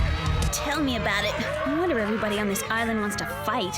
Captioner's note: cheering